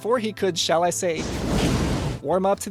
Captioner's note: epic flamethrower sounds